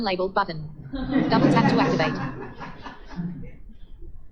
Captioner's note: audience laughter